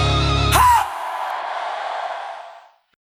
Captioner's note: crowd Noise